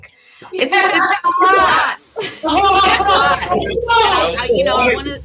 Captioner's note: cheering